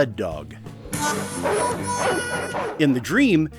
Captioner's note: aggressive barking